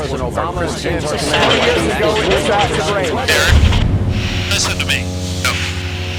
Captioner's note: engine clanks